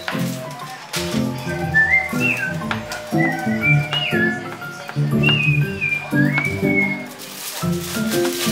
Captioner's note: Whistle of satisfaction in finding food